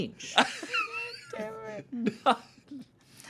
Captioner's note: everyone laughs